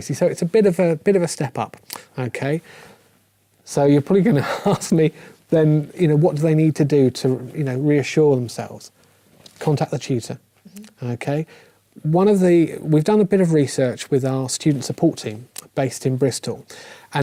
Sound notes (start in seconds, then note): 4.3 laugh